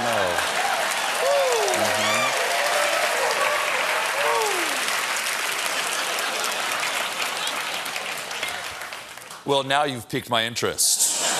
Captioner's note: cheers and applause